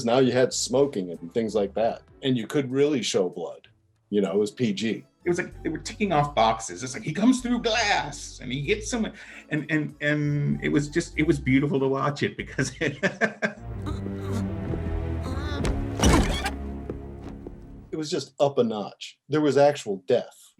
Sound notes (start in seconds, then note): 12.9 laughing; 13.4 muffled voice